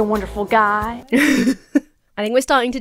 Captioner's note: laughs